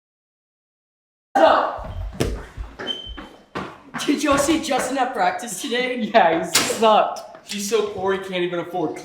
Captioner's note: locker slamming